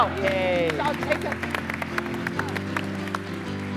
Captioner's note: cheers and applause